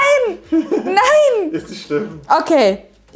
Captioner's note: laughing* It's no problem!